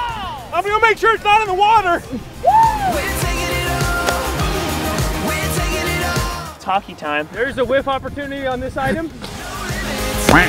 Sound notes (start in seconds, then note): 7.3 voiceover